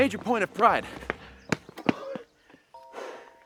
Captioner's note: panting